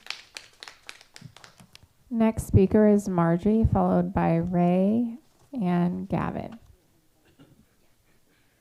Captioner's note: applause